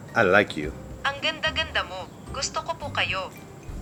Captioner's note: foreign